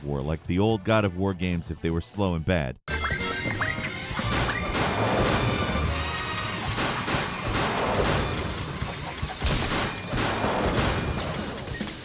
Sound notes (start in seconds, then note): 4.6 punches thudding on enemy